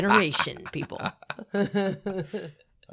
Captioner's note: laughing